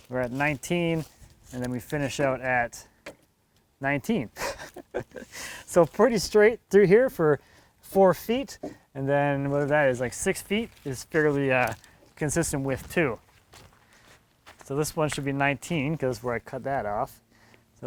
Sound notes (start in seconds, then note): 4.3 laughs